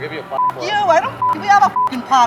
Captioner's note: beep